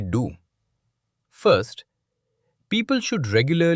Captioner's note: thoughtful